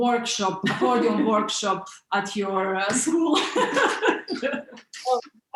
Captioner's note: laughs